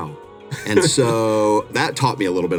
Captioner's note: chuckles